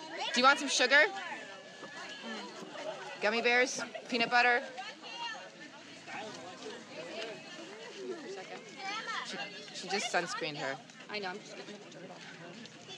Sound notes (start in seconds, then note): 0.0 unidentified background chatters; 5.9 background crowd chatter